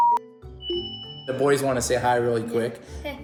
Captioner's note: phone beeps; alert chimes